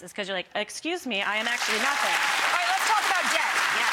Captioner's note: audience claps